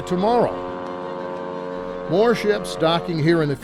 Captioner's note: ship honking